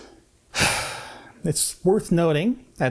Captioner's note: heavy sigh